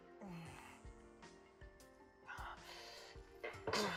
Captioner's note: grunting